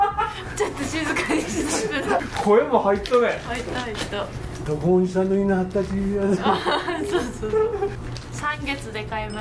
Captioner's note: laughs